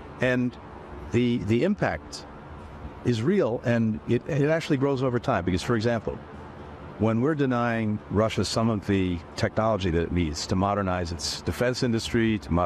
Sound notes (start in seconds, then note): 2.1 HABLA EN INGLéS